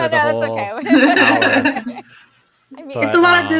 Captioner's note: both laughs